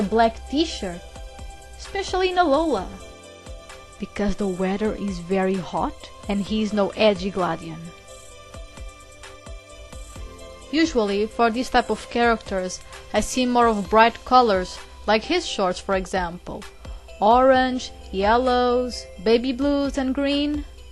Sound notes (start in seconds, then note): 4.0 whispeing